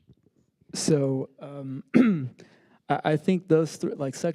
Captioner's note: clears throat